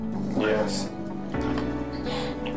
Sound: none

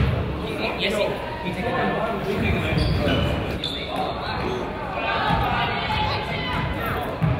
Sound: crowd chatters

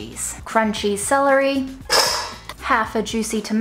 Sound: bowl rattling

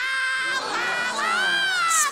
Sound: crowd gasping

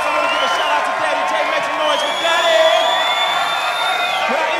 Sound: cheers and applause

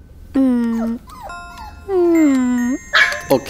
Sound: Benji whimpering

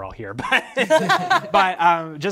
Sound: participants laughing

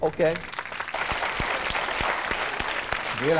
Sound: clapping

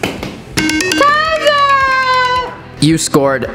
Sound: timer rings

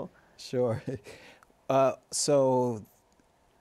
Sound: laughs

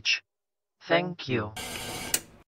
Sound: static, then a click

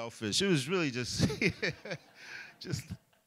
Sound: laughs

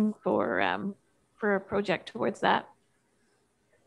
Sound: none

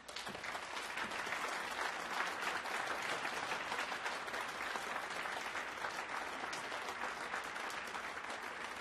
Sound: applause

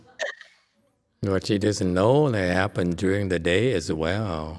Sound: laughs, audience laughs

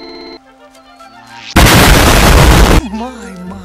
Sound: explosion

